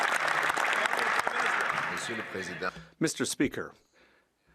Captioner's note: speaking French